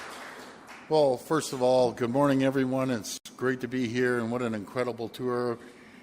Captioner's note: applause